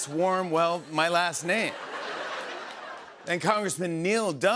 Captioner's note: laughter